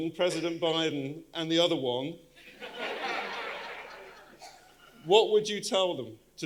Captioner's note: audience laughing